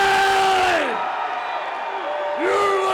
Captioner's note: crowd cheering